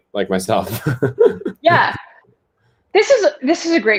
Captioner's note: laughter